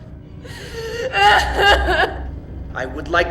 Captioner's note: Elizabeth crying